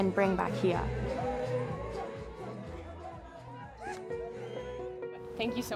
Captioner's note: dancing and Cheering